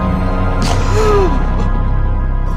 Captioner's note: gasping for air